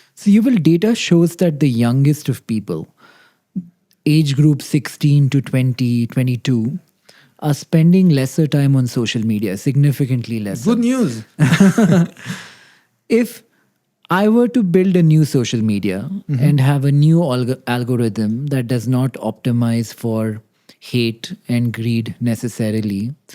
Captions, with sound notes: So, Yuval, data shows that the youngest of people, age group 16 to 20, 22, are spending lesser time on social media, significantly less. -Good news. -[both laugh] If I were to build a new social media and have a new algorithm that does not optimise for hate and greed necessarily,